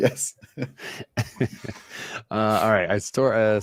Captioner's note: laughter